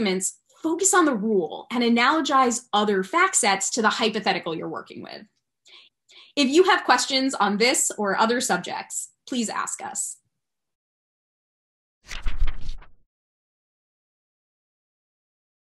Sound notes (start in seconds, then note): 12.0 fluttering Pages